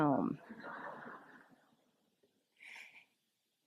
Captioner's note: laughter